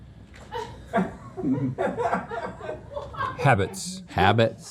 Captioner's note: silence, crew laughing